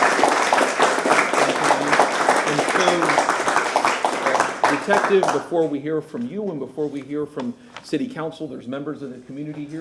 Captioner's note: applause